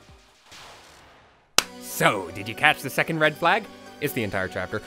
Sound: clap

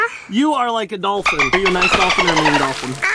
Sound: dolphin speaking

